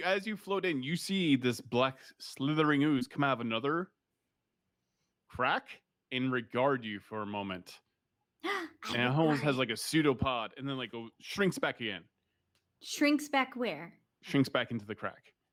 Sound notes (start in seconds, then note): 8.5 gasps